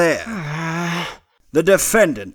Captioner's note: low angry growl